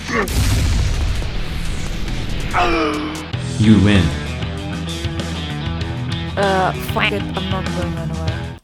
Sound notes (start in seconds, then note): 2.5 dying sound